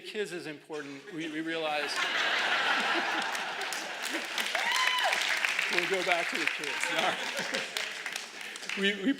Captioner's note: laughter; laugher